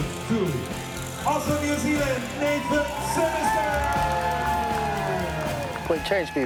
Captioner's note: cheers and applause